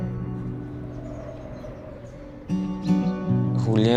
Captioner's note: nature sounds; soft music continues; wind blowing